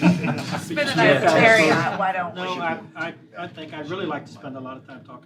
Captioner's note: laughter